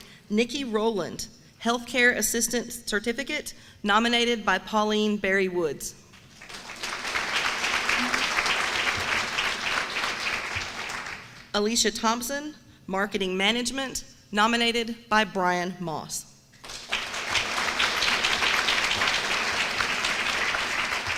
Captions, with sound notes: Nicki Rowland, health assistance certificate, nominated by Pauline Berrywoods. [APPLAUSE] Alicia Thompson, marketing management, nominated by Brian Moss. [APPLAUSE]